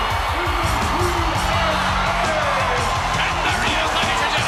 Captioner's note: crowd cheering